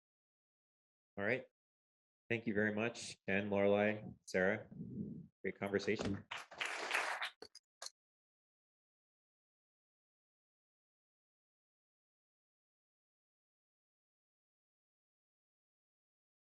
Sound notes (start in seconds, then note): 11.7 applause